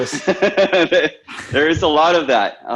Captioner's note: laughing